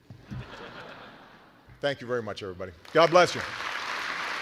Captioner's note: laughter